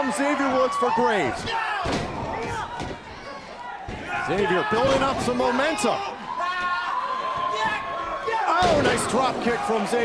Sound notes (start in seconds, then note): 3.1 crowd cheering